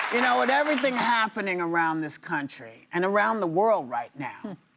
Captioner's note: applause